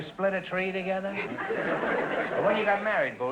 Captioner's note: audience laughter